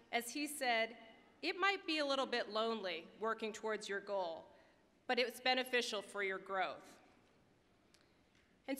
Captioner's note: none